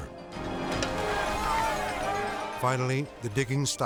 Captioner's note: group chattering